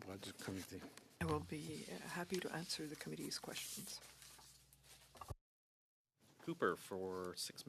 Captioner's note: speaking French